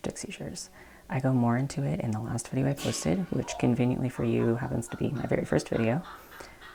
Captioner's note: crash; cackling